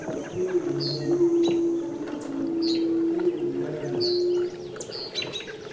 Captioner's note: birds chirping